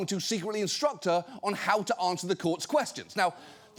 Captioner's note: none